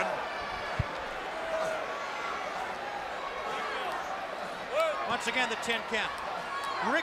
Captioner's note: crowd cheering